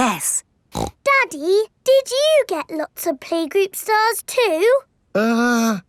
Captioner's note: snorts